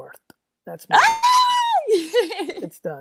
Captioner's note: screams excitedly